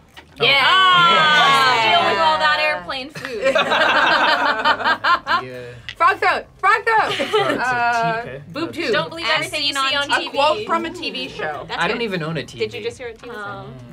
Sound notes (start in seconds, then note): 0.4 all exclaiming; 3.2 all laughing